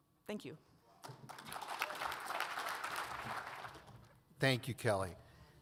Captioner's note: audience applauds